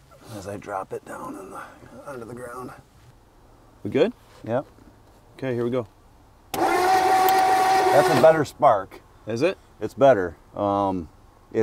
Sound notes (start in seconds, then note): 5.6 vehicle engine humming; 6.5 vehicle engine clicking